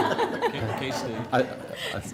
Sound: laughter

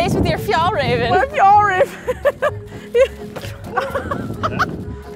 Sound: laughs

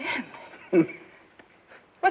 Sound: laughs

